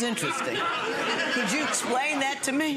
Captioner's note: audience laughing